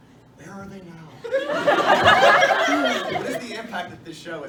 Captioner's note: laughter